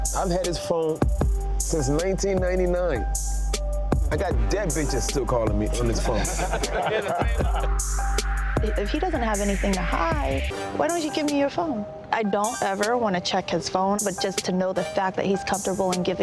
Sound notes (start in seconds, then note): 5.8 all laugh